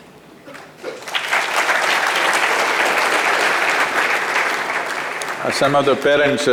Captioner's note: applause